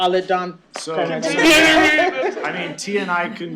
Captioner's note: laughter